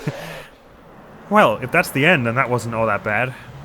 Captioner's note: cry of pain; relieved laughter